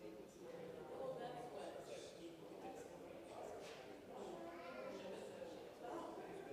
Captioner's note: congregation chattering